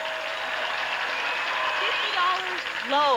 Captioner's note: audience applauding